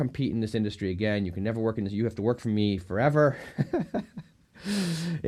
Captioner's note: laughing